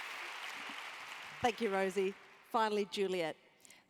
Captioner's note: applause